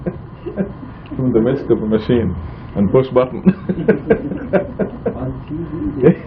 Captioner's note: laughing